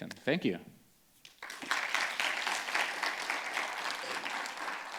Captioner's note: audience claps